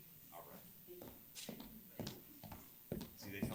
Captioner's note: footsteps recede